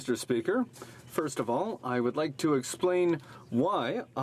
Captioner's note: speaking French